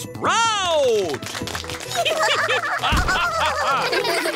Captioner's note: applause; all giggling